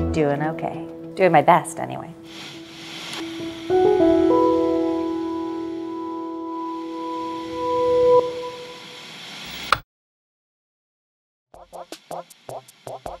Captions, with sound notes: - Doing okay. Doing my best anyway. (white noise) (white noise) (click)